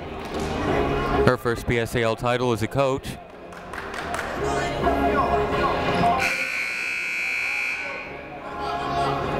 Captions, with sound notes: Her first PSAL title as a coach. (buzzer ringing)